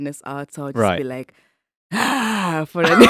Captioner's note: exhales